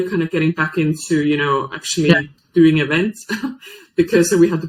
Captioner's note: chuckles